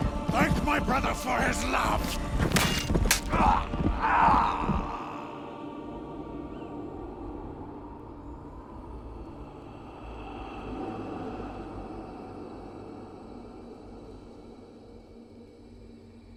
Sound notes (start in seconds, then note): 4.0 groans